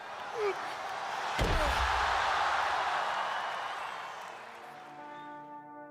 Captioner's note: audience cheers and applauds